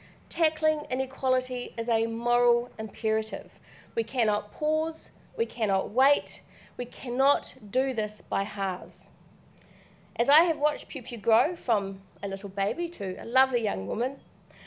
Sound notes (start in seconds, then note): none